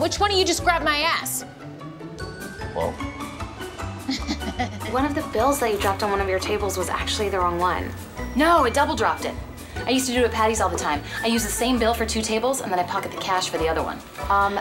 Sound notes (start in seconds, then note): 4.0 laughs